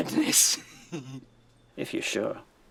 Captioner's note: laughing